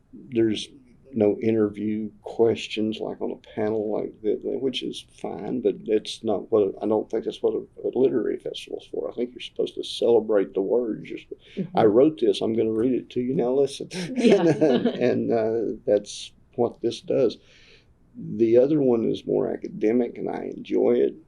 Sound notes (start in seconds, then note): 13.9 laughter